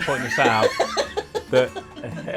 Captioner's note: laughing